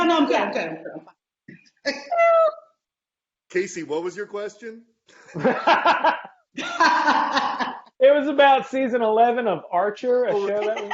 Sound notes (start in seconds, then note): 4.5 laughing